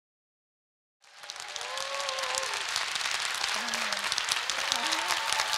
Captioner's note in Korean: 박수 소리